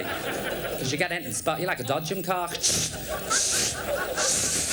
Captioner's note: imitates sparking noise